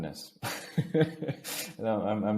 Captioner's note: chuckles softly